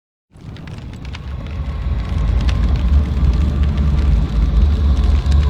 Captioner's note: wind whooshing; fire crackling